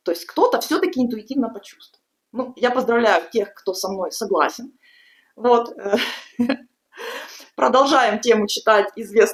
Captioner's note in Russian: смех